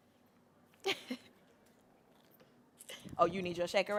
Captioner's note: chuckles